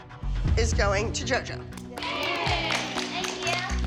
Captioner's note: girls cheering